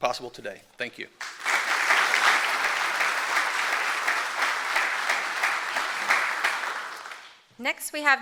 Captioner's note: applause